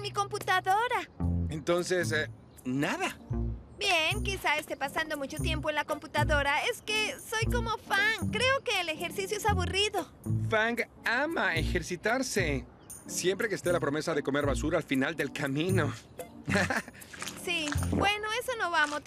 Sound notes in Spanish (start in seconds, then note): 14.8 riendo